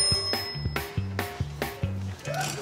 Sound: bell rings

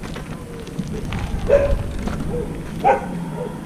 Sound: barking

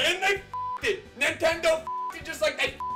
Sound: beep

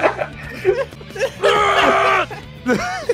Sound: laughter; vector yells; laughter

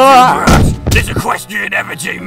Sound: excessively weighty head slam

